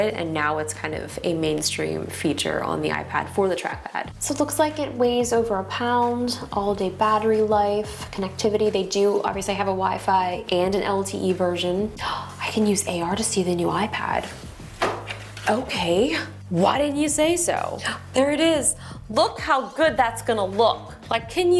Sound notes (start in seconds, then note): 12.0 gasps